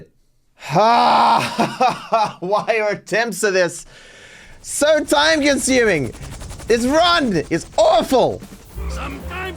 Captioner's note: laughs in pain